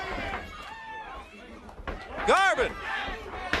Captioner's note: crowd chatter